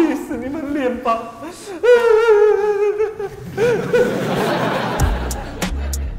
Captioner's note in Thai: ร้องไห้